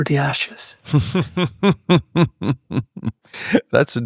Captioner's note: laughter